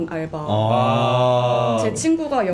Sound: exclaiming

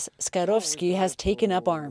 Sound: speaking Foreign Language

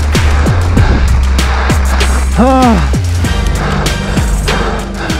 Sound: breaths heavily

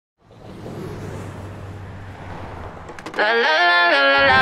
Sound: cars swooshing

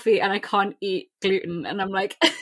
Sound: laughs; laughing

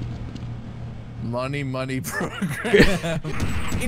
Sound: laughter

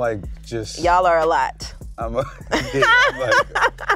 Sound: laughs

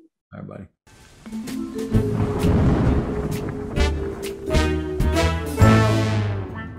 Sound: curious music; thunder cracking

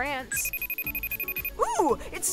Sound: video call ringing

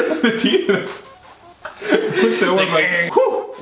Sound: brothers laugh loudly

